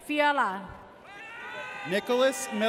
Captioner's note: audience cheers